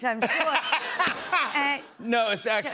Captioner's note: laughter